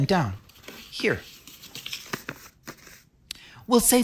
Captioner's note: paper rustling sound